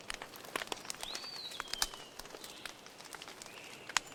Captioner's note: sound of wood crackling in the fire